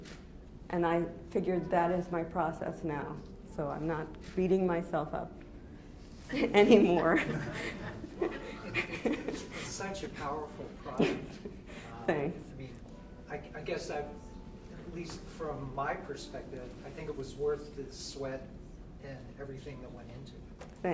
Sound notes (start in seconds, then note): 6.8 laughs